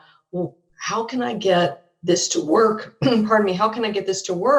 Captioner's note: clears throat